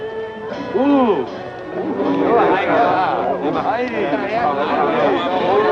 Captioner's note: speaks foreign language